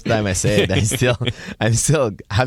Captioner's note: laughing